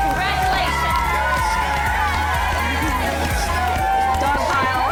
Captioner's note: upbeat music; women cheering